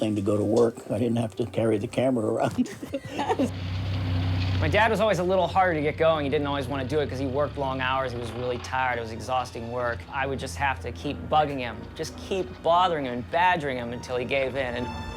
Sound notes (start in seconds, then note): 2.2 laughing